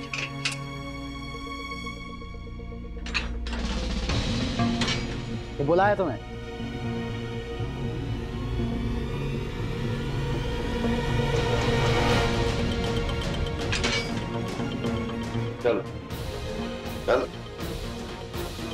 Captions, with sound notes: [door latch clinking] You have been summoned. [sweeping music playing] Come here. Let's go.